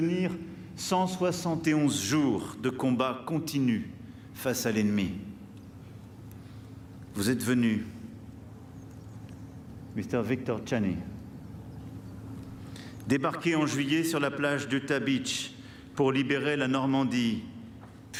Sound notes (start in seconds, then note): 3.2 speaking french